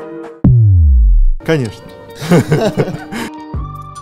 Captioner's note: laughing